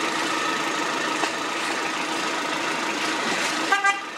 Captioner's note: engine